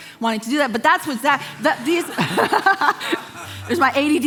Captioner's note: congregation laughing